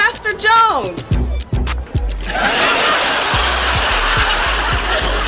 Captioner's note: audience laughs